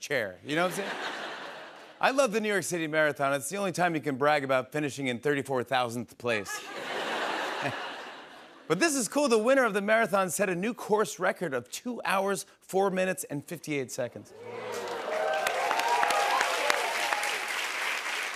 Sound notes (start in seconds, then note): 6.4 laughter; 14.3 cheers and applause